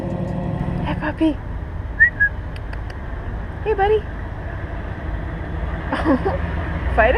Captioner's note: whistling